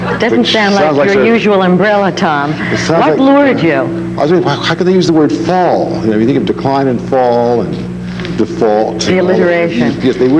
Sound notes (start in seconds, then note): 2.5 laughs